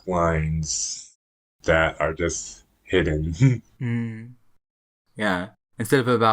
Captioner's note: laughs